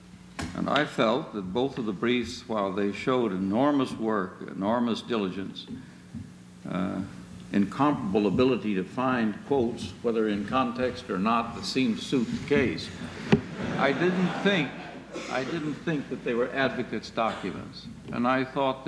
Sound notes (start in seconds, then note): 13.0 laughter